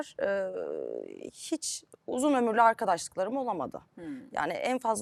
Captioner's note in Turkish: homurdanır